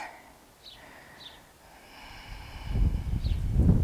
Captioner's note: deep breathing